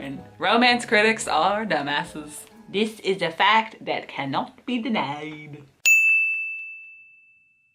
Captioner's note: ding